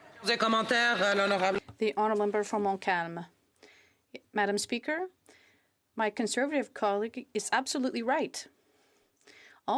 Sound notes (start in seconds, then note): 5.7 speaking French